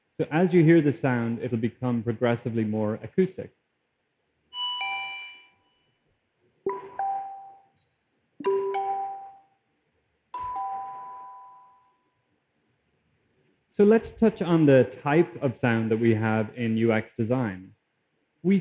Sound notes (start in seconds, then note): 4.0 chimes